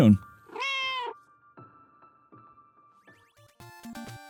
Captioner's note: meow